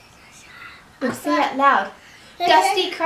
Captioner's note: whispering